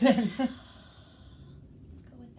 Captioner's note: laughs